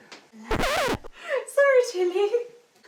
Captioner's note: record scratch